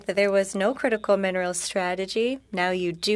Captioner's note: speaking French